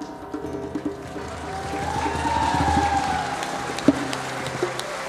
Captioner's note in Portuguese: palmas e ovações